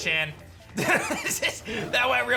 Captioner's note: laughs